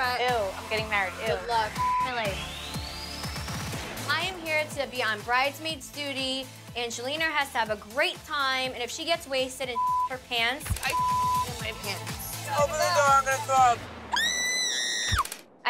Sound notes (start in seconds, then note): 1.7 beep; 10.7 beep; 14.1 Snooki screaming